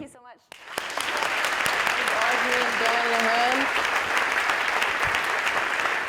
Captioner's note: and audience applauding